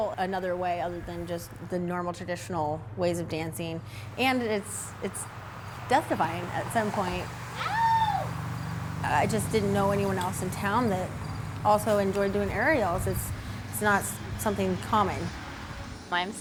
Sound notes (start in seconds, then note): 7.5 short scream